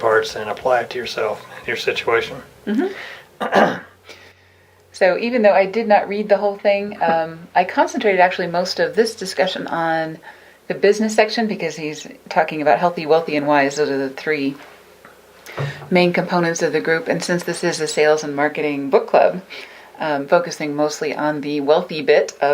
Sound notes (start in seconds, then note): 3.4 clearing throat